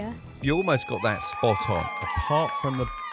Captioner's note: bell dinging; crowd cheering